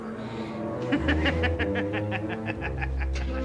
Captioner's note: laughing